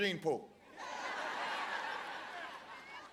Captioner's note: laughter